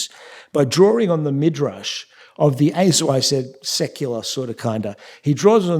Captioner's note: yiddish